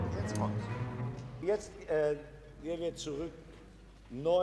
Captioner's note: orchestra stopping; speaking foreign language